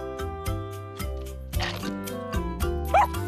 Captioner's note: chomp!